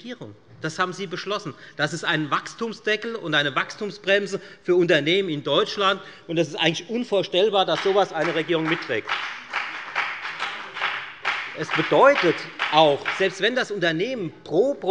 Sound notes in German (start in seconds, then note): 10.0 Beifall bei der FDP